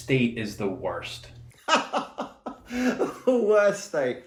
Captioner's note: laughing